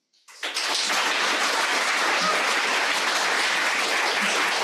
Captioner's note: audience clapping